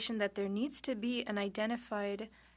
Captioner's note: speaking French